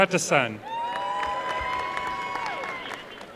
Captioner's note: applause